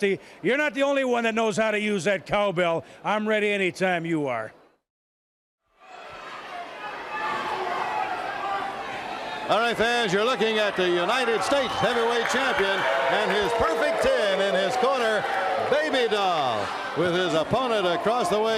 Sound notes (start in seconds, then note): 3.6 crowd chatter